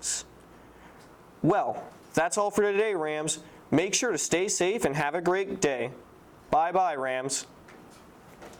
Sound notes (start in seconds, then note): 7.6 lots of emphasis